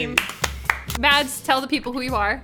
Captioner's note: clapping